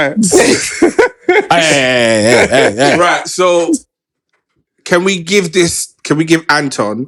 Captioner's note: laughter